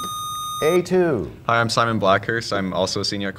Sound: sound of a buzzer

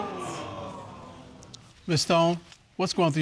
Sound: audience exclaiming

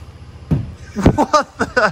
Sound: thud

